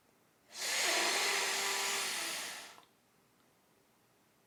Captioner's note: man inhaling